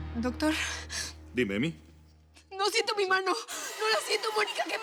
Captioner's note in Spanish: sollozos